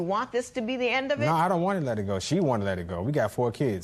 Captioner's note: none